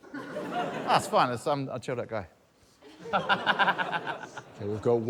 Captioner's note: laughter